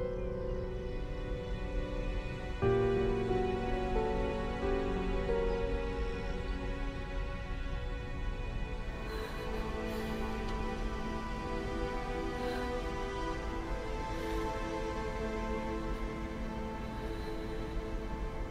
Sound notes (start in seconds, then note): 11.1 panting